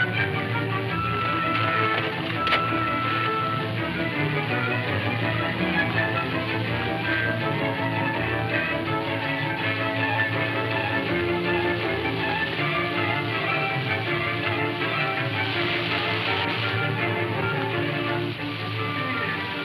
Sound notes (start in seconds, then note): 15.0 waterfall pouring